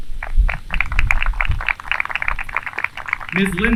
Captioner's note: applause